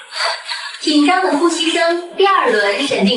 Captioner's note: tense breathing sounds